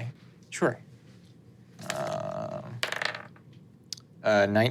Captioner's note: dice rolling